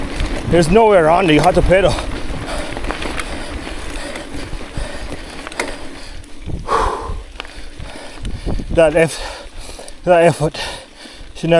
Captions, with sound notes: There's nowhere around here. You have to pedal. [Panting] That effort should